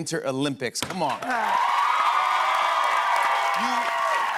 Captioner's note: cheers and applause